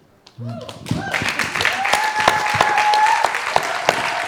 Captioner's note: audience applauding